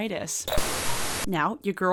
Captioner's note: signal static